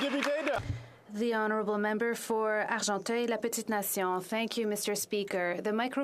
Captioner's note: applause